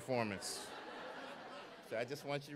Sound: audience laughs

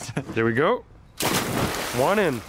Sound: chuckles; water splash

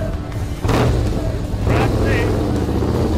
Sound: engine revving

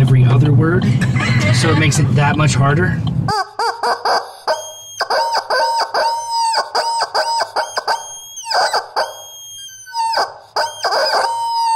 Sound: drawn out squeaking; laughter

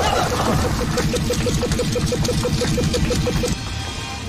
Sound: blipping races; hurried scuttling

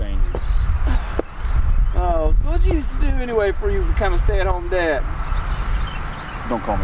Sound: sighs

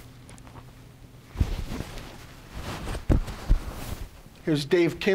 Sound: mic rustling

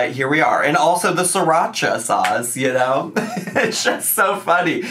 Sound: laughs

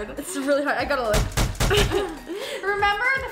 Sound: hard hammering

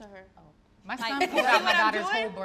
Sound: all laugh

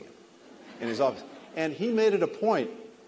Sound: laughter

